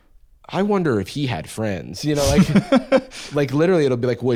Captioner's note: laughs